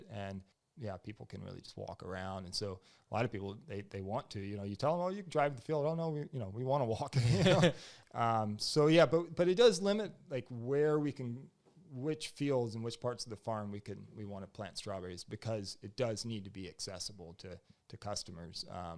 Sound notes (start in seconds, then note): 7.2 both laugh